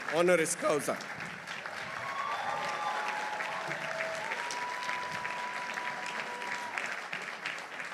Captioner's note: audience applauding; audience cheering